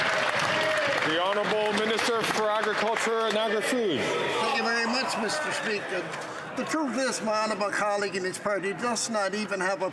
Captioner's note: some Applause